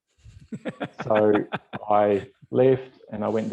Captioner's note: cackles